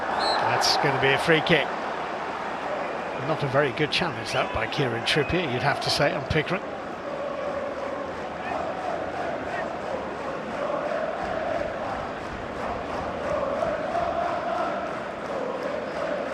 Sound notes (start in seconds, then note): 4.9 audience oohs